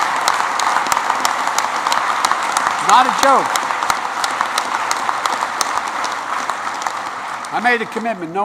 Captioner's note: applause